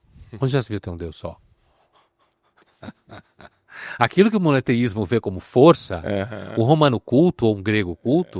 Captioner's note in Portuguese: risadas